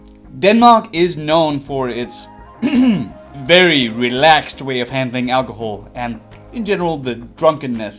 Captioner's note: ahem